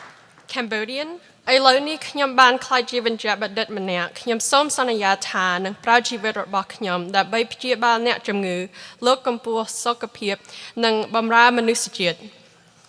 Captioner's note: applause; speaking cambodian